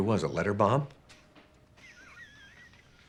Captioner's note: chuckling